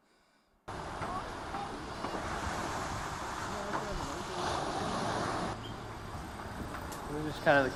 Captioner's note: non-english speech